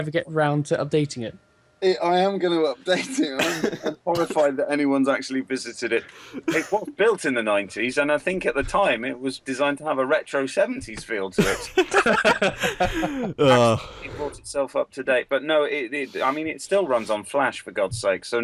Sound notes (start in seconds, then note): 11.4 laughter